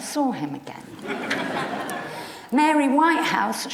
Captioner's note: audience laughs